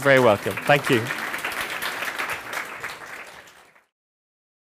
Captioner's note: applause